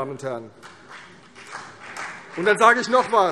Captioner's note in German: Beifall CDU und BÜNDNIS 90/DIE GRÜNEN